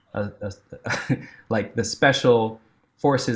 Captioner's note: chuckling